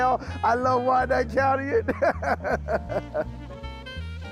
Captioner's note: laughs